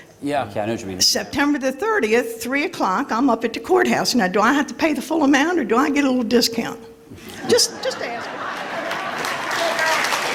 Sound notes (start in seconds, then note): 8.1 applause and laughter